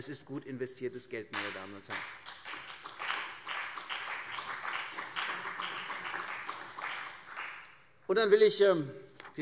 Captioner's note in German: Beifall CDU und BÜNDNIS 90/DIE GRÜNEN